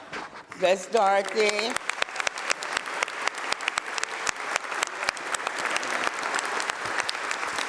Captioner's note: applause